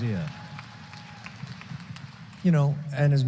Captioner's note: applause